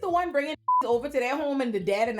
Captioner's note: beep